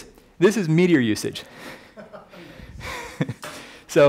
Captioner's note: laughing